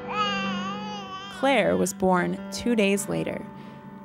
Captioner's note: baby crying